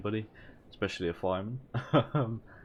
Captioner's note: laugh